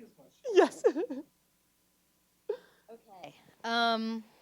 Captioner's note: chuckles